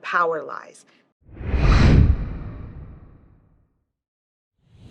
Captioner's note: air whooshing